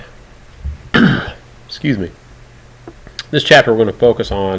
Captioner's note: clearing throat